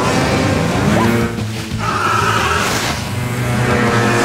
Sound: grunting

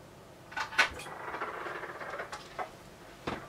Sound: door creaks: spooky shit

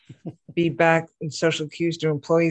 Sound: laughing

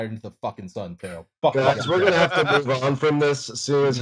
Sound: laughter

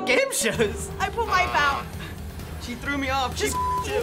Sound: buzzer rings

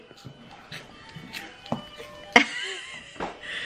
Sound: crunching; laughs

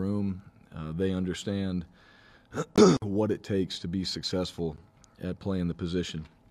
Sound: cough

